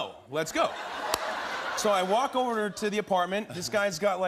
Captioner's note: laughter